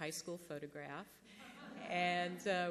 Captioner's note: laughter